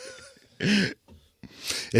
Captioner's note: laughing